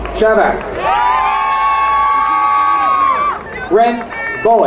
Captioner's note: crowd cheering